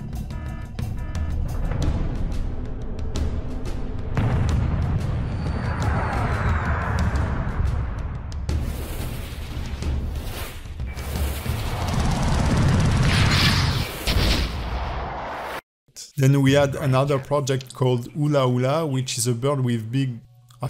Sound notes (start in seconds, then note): 1.1 dramatic music; 4.9 jet flying; 14.2 explosion